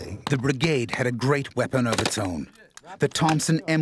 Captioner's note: voiceover